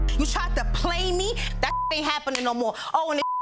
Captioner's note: beep